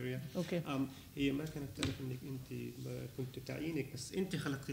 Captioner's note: speaking arabic